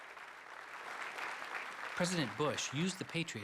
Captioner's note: applause